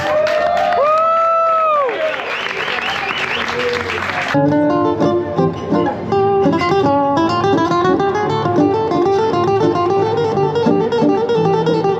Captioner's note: applause